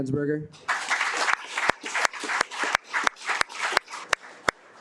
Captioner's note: audience applauding